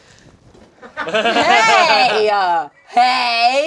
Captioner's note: group laughing